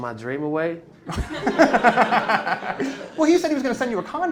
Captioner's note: laughter